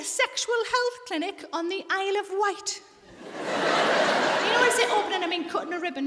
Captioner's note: audience laughs